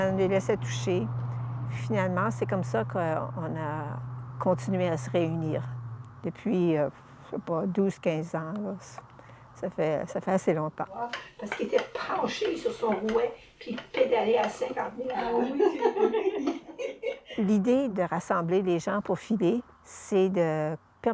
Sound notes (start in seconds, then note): 16.7 laughs